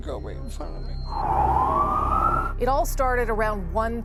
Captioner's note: sirens